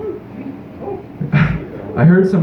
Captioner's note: chuckle; scoffs into microphone